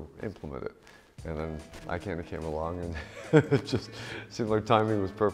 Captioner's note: laughing